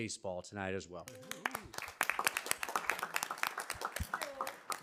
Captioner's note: audience clapping